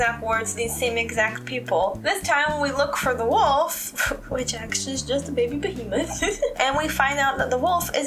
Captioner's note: laugh